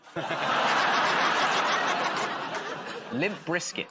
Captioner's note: laughter